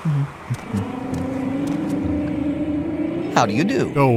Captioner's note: wistful silt strider noises